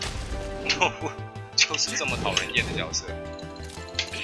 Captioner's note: chuckles